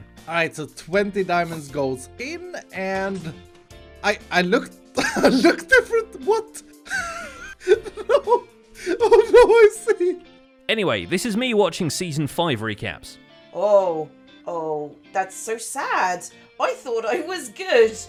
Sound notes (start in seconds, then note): 6.9 wheezed laughter; 6.9 laughs